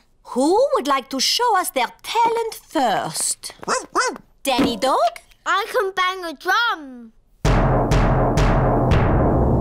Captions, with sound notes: Who would like to show us their talent first? -(BARKS) -Danny Dog? I can bang a drum. (BANGS DRUM LOUDLY)